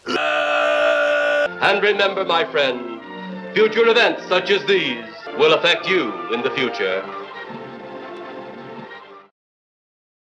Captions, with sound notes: EEEEEEERRRRRRRRRRRR EEEEEEERRRRRRRRRRRR ( in Criswell's voice ) And remember, my friend... ( in Criswell's voice ) And remember, my friend... Future events such as these, will affect you in the future. Future events such as these, will affect you in the future.